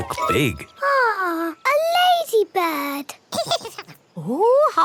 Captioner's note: giggles